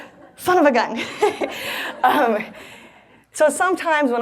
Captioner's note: laughs